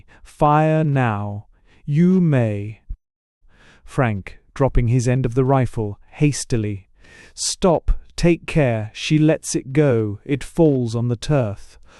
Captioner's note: coaxingly